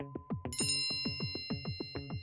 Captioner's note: bell dings; bell chimes; suspenseful music